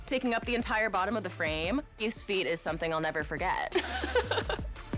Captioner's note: laughs